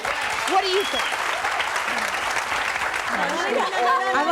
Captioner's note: audience applauds